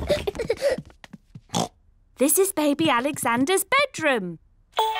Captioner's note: oinks